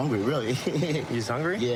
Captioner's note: laughing